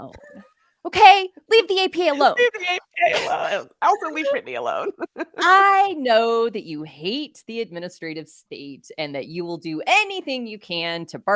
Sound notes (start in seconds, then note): 0.1 chuckling; 4.8 laughing